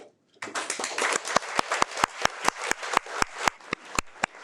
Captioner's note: audience applauding